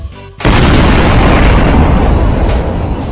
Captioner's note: cool explosion